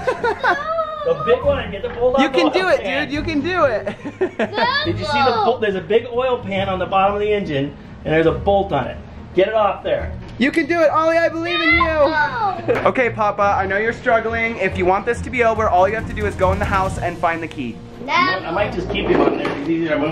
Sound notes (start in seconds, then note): 0.0 laughter; 3.8 laughter